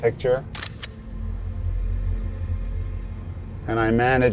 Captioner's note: camera snapping